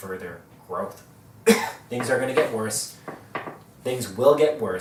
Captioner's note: cough